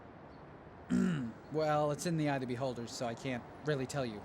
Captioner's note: clears throat